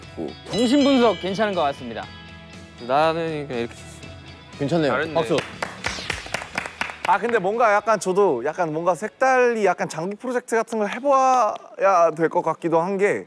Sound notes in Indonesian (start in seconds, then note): 5.2 Tepuk tangan